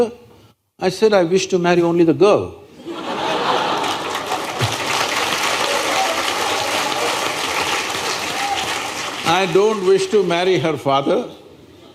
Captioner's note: applause